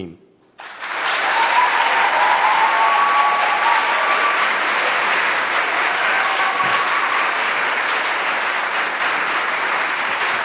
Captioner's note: applause